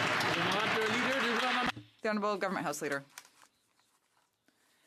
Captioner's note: some Applause